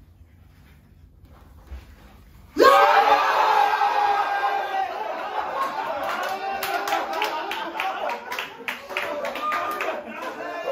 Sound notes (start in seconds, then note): 2.6 cheering